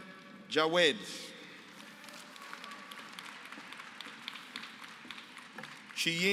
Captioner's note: applause